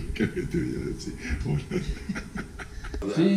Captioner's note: laughs